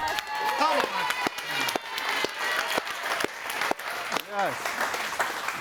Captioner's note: audience applauding